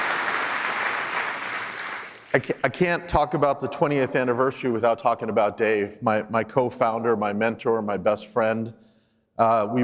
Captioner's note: applause